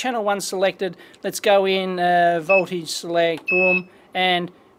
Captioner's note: beep